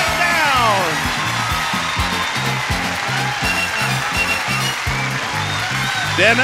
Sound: audience cheers; upbeat music

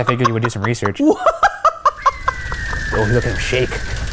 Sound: laughing

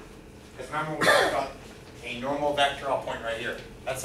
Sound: coughing

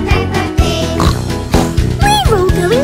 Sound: snort snort

